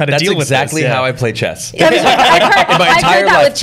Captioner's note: laughter